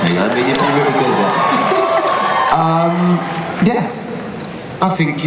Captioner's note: cheers